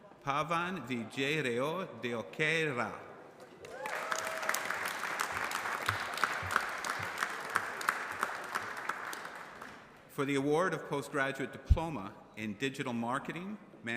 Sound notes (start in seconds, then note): 3.6 applause